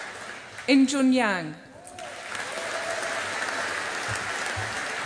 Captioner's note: audience applauding